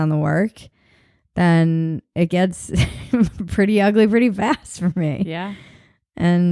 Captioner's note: chuckles